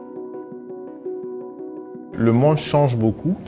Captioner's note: non-english speech